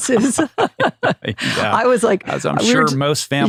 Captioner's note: laughs